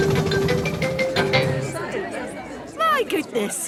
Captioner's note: all murmuring